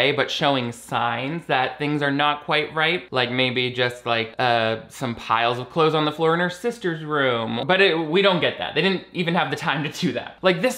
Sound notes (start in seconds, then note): none